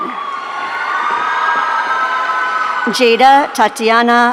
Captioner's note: audience cheering